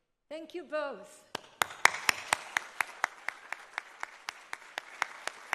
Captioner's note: audience applauding